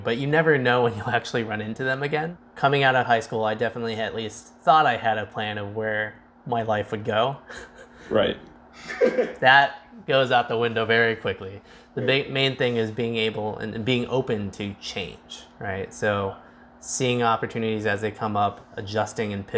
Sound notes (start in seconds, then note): 8.8 chuckles; 8.8 laughs